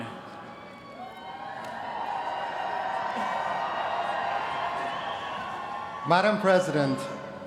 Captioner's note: applause